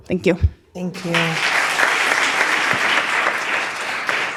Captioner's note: speaking in different language